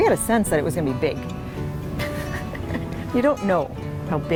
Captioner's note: laughing